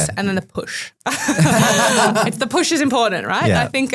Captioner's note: group laughing